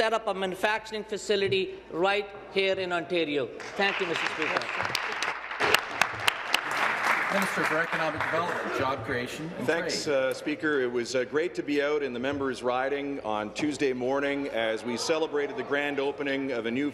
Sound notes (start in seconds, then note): 7.0 applause